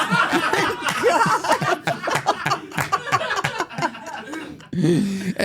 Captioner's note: everyone laughs